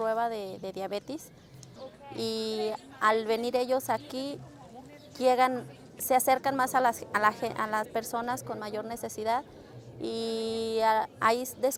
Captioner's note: foreign language spoken